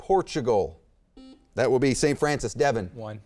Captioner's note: beep